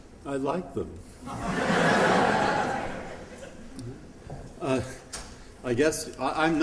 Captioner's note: laughter